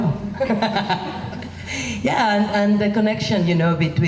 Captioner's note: laughs